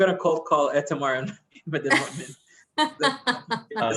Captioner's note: laugh